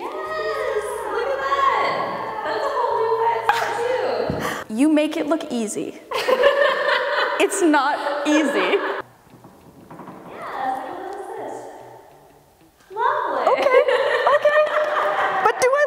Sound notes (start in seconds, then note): 6.1 laughing; 13.4 all laughing; 14.7 hands clapping